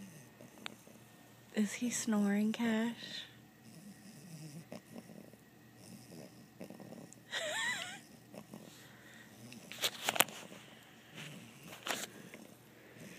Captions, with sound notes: Is He Snoring Cash? [Laughing]